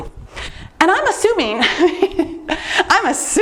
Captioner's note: laughs